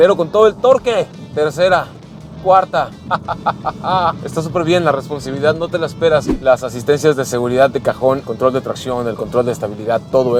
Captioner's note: laughter